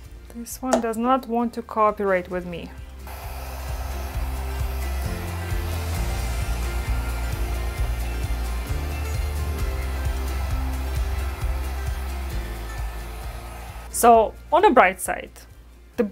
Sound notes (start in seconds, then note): 3.5 hair dryer blowing; 3.5 upbeat music